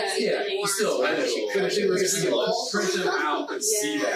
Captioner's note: group chattering